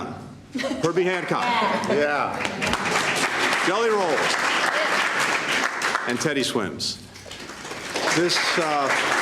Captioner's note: applause